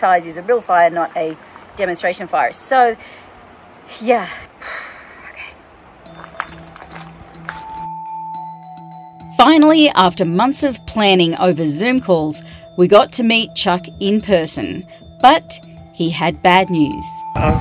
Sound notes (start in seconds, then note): 4.6 sighs; 6.3 somber bells